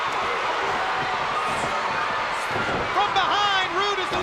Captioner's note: spectators cheering